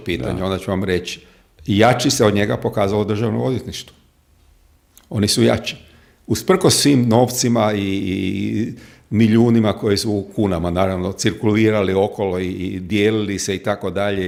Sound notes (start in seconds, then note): none